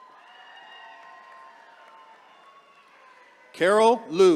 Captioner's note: attendees cheering